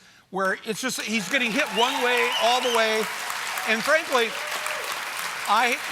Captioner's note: applause